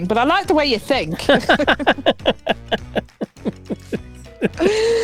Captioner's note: both laughing